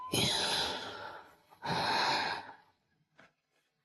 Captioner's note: thở dài